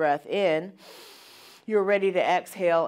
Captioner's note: breathes in heavily